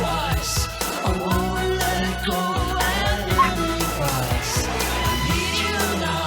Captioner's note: Ella barks